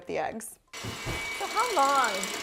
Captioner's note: mixer whirring